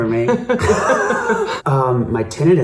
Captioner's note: laughing